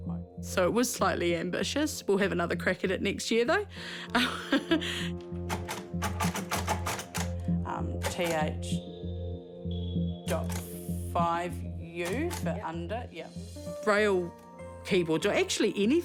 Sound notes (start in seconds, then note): 4.1 chuckles; 5.2 keys clack